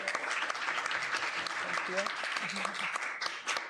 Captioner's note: applause